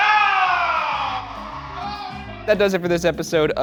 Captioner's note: audience cheering